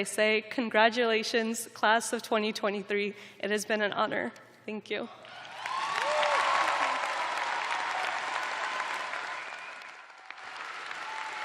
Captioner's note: cheers and applause